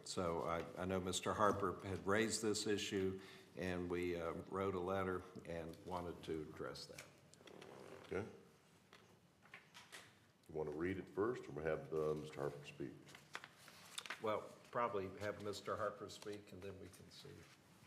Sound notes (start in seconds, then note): none